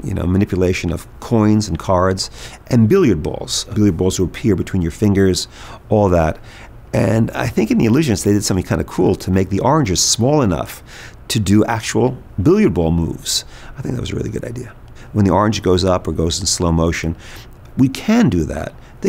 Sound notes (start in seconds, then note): none